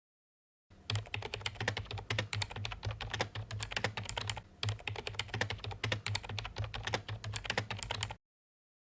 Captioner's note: typing